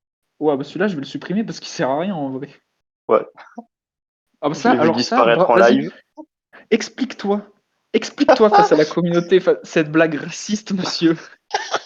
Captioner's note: laugh